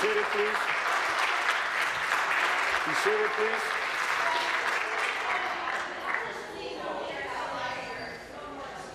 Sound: applause

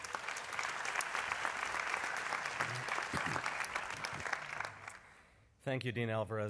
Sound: applause

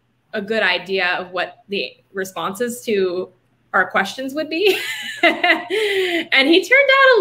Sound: laughing

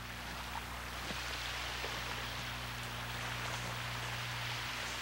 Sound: water splashing gently

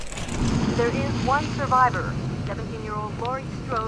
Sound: on Radio

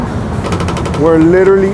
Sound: boat creaks

